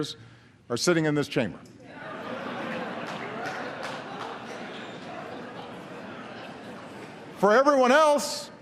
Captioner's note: laughter